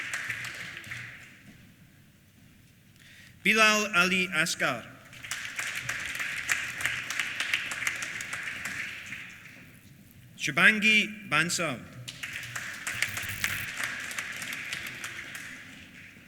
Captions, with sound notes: Bilal Ali Asghar. (APPLAUSE) Shubhangi Bansal. (APPLAUSE)